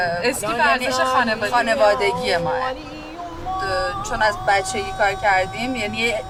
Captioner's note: woman speaks in other language: translation on screen